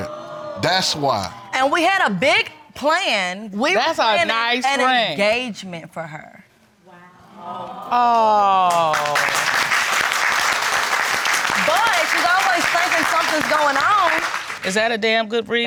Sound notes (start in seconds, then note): 10.3 audience applauding